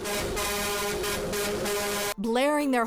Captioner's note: horn honking